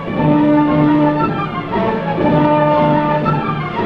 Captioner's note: banging